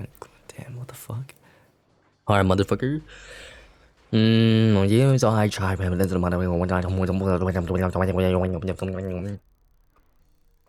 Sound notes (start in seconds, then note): 3.1 huge-ass breath